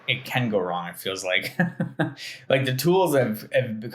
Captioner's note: laughing